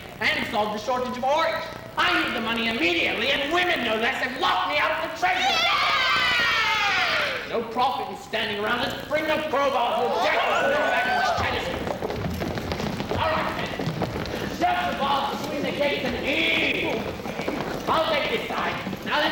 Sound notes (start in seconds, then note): 5.4 women cheering; 11.0 chaotic shouting